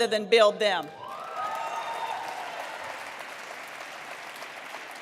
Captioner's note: cheering